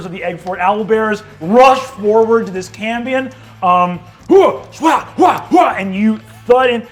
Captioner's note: mimics fighting grunts